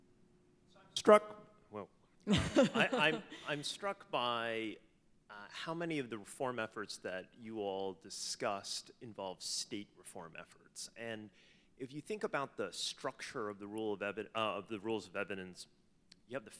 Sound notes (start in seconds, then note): 2.3 panelists laughs